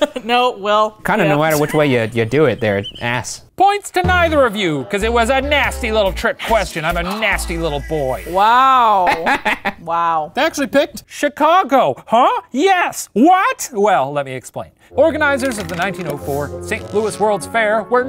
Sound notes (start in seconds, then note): 7.0 laughing